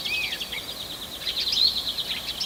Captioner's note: birdsong